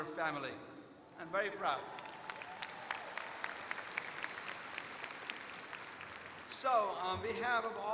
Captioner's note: applause